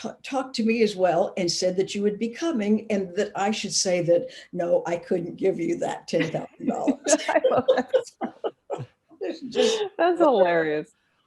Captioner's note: laughing